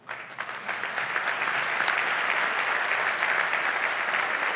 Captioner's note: audience applauds